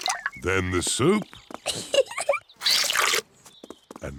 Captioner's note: giggles